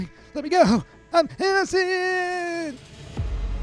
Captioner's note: in a frantic voice